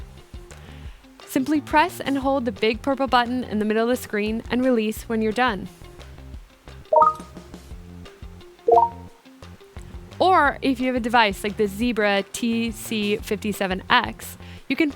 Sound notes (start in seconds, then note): 6.9 cell phone chimes